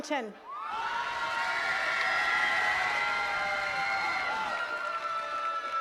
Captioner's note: attendees cheering and clapping